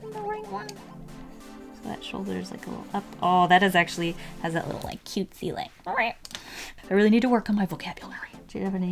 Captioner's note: squeaks